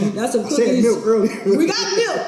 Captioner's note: laughs